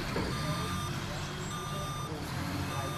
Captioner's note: truck beeping